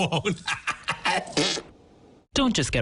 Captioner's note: laughing